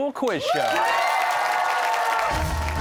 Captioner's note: cheers and applause